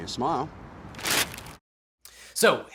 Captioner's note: paper rustles